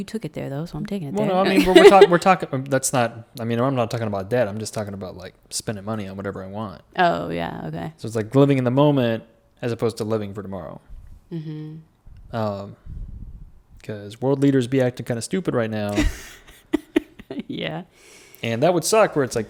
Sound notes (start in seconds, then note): 15.9 laughs